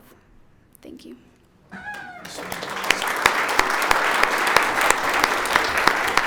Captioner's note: audience applauds